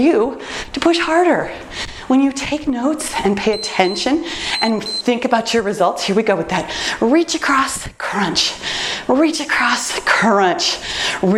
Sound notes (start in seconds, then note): 4.3 timer beeps